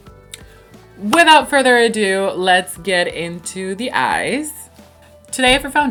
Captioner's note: claps